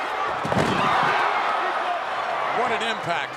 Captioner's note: Bret Hart thudding